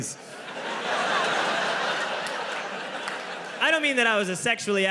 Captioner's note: audience laughing